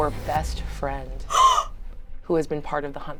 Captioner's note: gasps